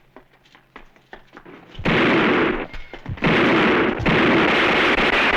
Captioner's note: gunfire